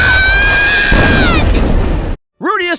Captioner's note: tree exploding